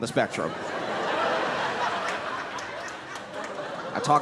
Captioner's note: laughter